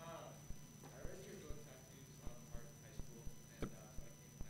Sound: murmuring question

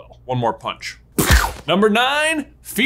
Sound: comic book punching sound

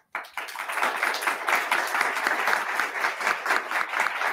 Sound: attendees clapping

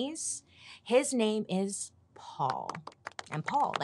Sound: audience applauds

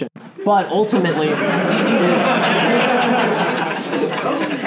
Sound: laughing

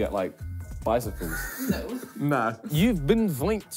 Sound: laughs

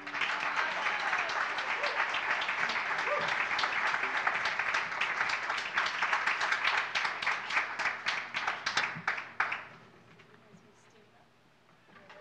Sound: applause

